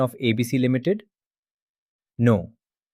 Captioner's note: pause